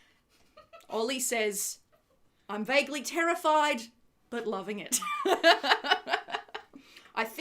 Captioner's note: laughs